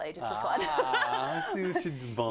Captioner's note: laugh